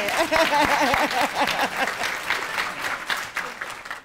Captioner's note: laughing